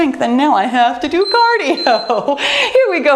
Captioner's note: bell dinging